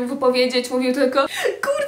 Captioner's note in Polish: szloch